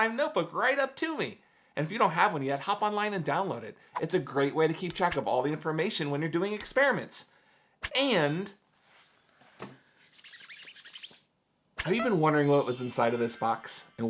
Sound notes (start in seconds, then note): 10.2 palms squeaking